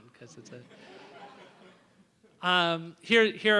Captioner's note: laughter